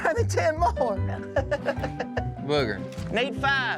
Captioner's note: laughs